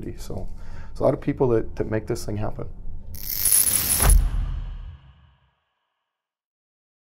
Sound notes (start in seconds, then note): 3.2 static sound